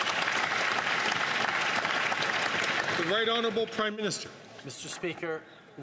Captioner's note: some Applause